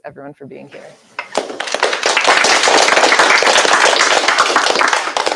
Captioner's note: applause